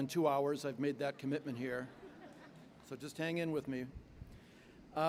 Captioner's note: laughter